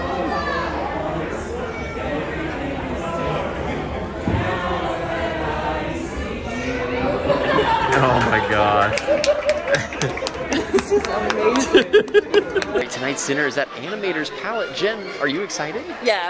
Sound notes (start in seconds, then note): 7.7 laughing; 8.7 clapping; 12.1 laughing